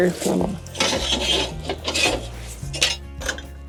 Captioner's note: sound of clanking metal